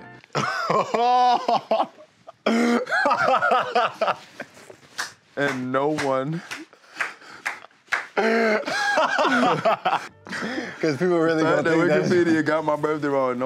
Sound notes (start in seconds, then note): 0.3 laughs; 5.4 clapping; 8.1 laughs